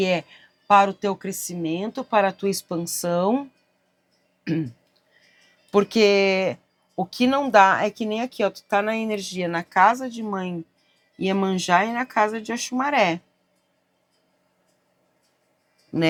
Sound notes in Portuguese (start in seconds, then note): 4.4 limpando a garganta